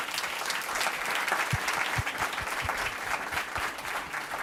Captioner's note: audience applauds